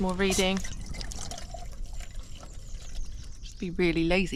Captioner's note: slosh slosh